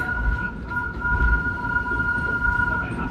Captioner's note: train whistles